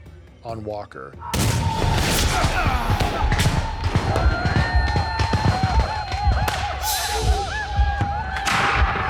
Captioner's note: gunfire, yelling